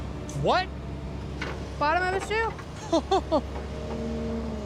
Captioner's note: laughs